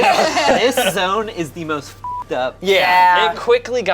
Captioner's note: beeps